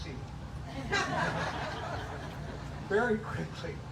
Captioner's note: laughter